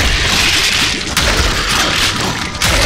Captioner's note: Goomba stomp noise